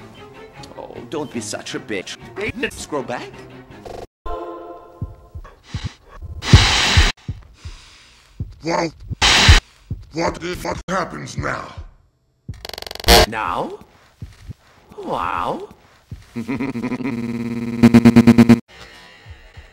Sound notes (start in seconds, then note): 5.6 A lililil inhale; 5.6 deep inhale; 7.3 deep inhale